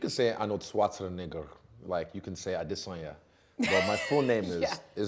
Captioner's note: laughing